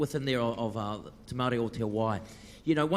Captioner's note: speaks in foreign language